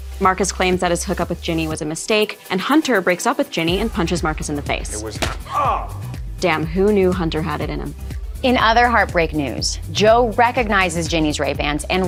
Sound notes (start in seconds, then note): 5.4 Marcus grunts